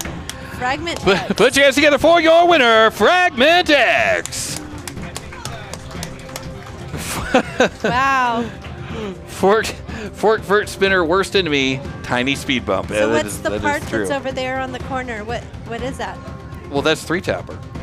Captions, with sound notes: Fragment X. Put your hands together for your winner, Fragment X. (clapping) Wow. Fort, Fort, Fort Spinner worst enemy, tiny speed bump. So that's the part that's over there on the corner. What, what is that? Well, that's three Tapper.